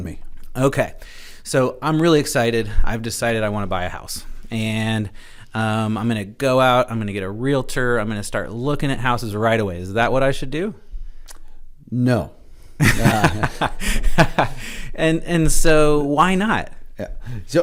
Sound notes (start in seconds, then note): 12.8 both laugh